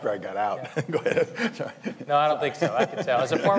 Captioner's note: laughs